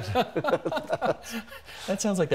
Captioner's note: both laughing